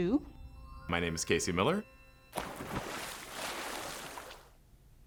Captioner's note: water splashes